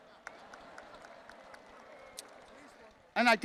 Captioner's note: attendees laughing